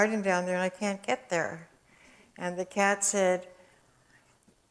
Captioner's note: none